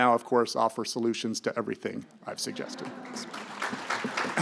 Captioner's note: audience laughing; audience clapping